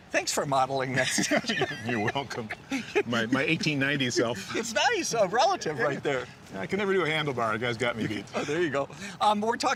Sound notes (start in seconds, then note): 0.9 laughter